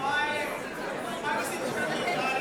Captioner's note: none